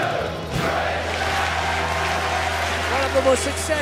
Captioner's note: cheers and applause